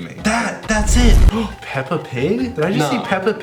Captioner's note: gasps